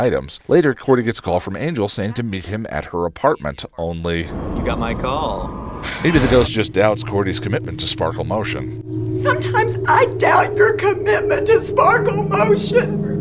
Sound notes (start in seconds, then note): 3.8 in Angel voice